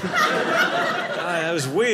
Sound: audience laughing

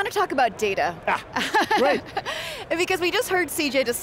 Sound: laughs

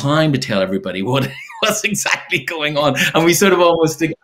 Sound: chuckles

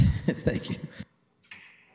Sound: chuckling

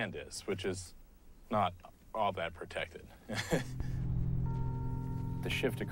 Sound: laughs

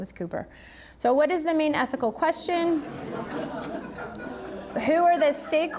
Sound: audience laughing

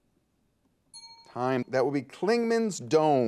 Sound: bell dings

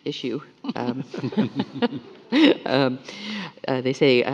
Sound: everyone laughing

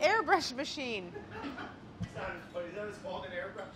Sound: laughs

